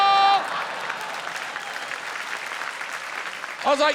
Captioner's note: applause